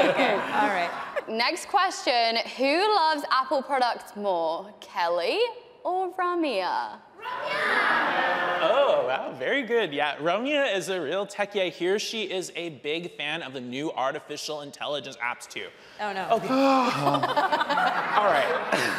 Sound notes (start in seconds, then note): 16.3 laughing; 16.3 sighs; 16.8 audience laughing